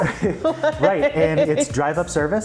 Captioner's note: laughing